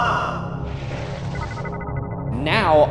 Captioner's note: screen beeping